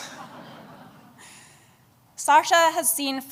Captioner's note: laughter